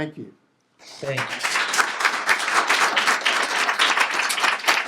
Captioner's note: applause